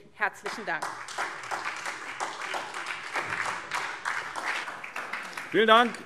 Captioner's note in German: Beifall SPD